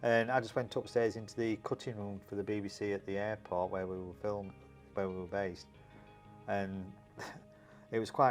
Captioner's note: laughs